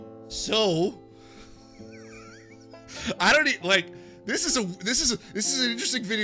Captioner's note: laughs